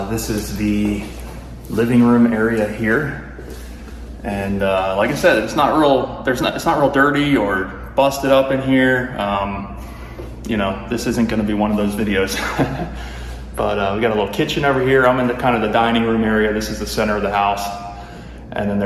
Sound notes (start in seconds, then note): 12.3 laughs